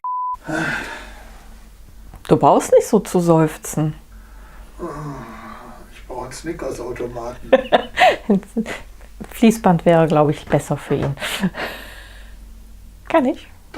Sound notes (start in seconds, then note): 0.4 sigh; 4.8 sigh; 7.2 laughs